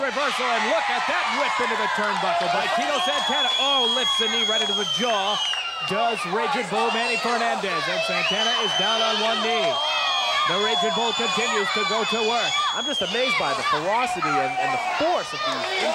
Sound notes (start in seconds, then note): 6.1 crowd yelling